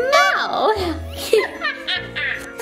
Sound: laughs

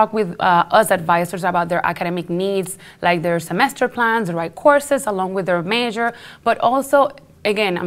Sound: none

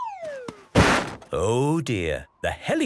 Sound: bangs

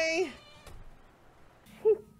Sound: KOTONOHA closes door

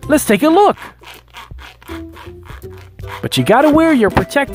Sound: sawing

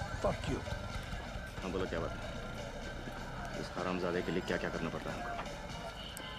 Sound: speaking foreign language

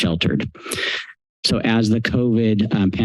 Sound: inhales

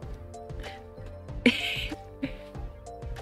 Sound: laugh

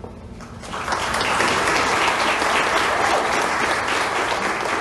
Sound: applause

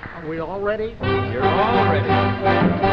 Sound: upbeat music; audience members applauding

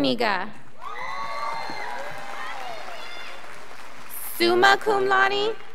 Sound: scholars applauding

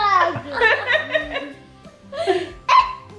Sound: laughs

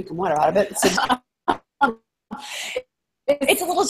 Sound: laughs

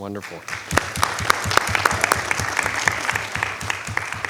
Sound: clapping

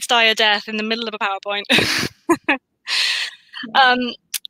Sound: laughs

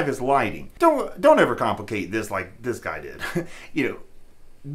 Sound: chuckles

